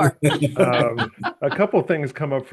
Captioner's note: laughing